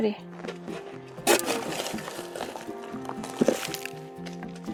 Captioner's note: dirt crunching